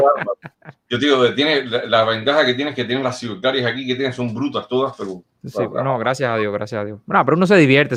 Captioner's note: laughs